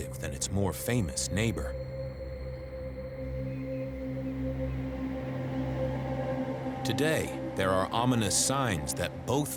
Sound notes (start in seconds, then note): 3.2 birds chirping faintly